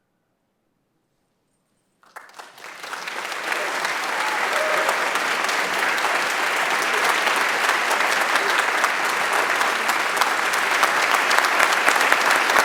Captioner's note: applause